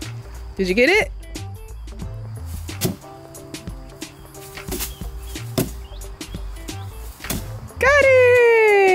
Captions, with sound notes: Did you get it? (bean bags thud on wood) Got it!